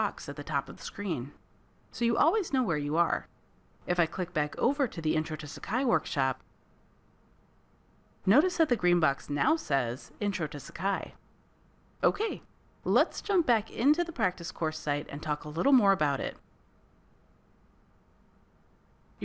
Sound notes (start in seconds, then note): 6.4 silence; 16.3 silence